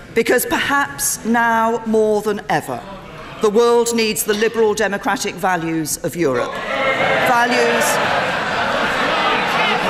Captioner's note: laughter